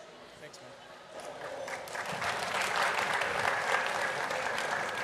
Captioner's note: applause